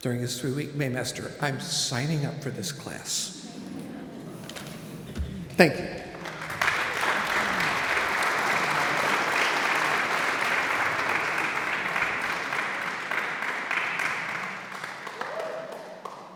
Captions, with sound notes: during this 3-week May master. I'm signing up for this class. Thank you. (audience applauds)